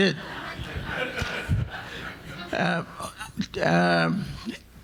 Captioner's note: audience laughing